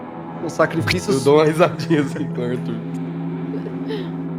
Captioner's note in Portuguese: Risada